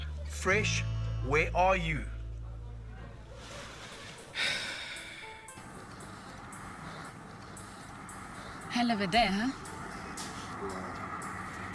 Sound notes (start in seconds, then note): 4.5 Xander sighs